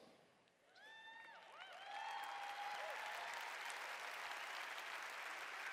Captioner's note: cheers